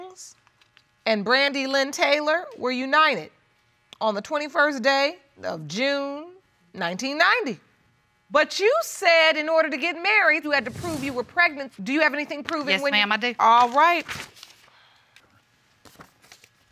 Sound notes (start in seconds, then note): none